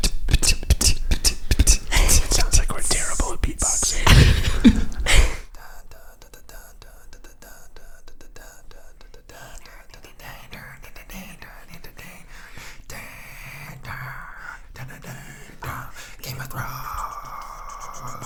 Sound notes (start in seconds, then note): 0.0 percussive mouth sounds; 3.9 laughs; 5.6 vocalizing Game of Thrones music